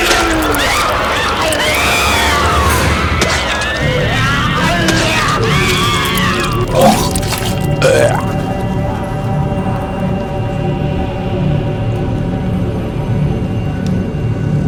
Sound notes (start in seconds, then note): 0.0 Goochers growling; 0.0 dramatic music; 6.6 Goocher burps